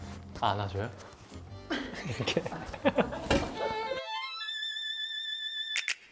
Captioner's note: laughs